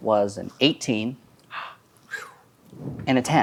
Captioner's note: gasps